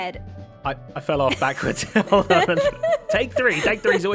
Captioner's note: laughs